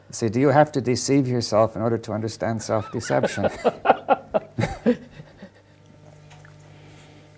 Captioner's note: laughter